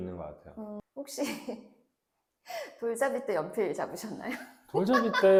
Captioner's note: hah hah